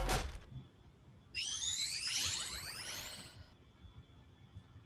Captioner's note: chime